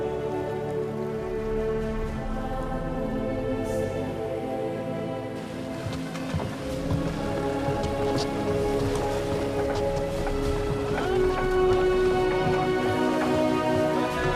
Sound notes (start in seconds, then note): 2.9 people chanting; 11.4 dramatic music